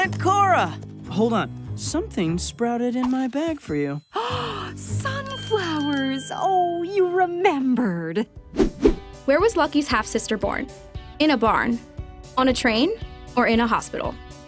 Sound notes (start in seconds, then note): 4.2 gasps